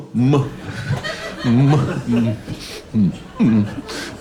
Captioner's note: audience laughing